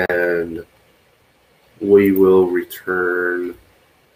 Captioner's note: none